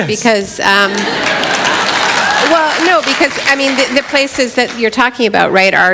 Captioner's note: applause